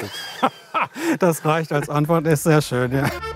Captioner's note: laughs